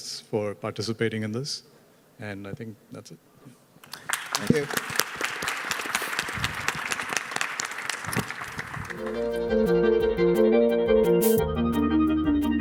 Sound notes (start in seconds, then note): 5.7 attendees applauding; 8.9 bright music